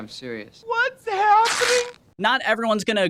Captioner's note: coat rips